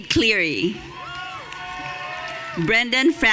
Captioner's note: audience cheering